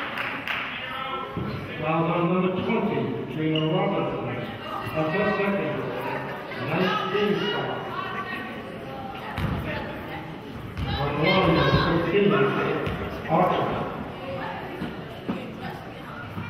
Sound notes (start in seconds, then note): 1.1 referee murmurs; 6.1 murmurs